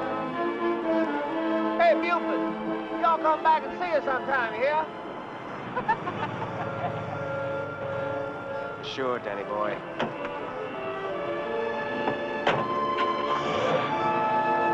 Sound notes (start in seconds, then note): 5.6 laughing